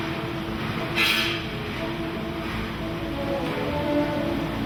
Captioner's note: flowing orchestral music; metal clanking